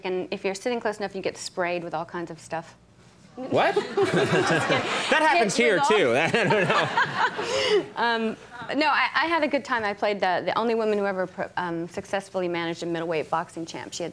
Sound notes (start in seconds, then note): 3.6 audience laughing; 5.7 Meg laughing